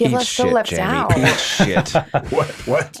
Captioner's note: laughing